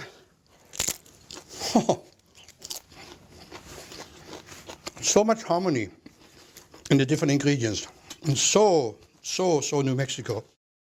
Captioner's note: crunching